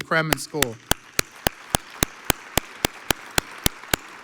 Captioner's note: audience applauds